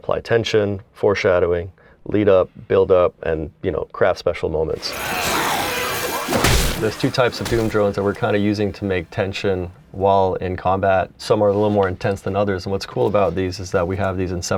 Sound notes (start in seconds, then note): 4.8 zombie grunts sounds; 6.4 loud thud